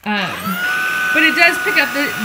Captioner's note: vacuum noises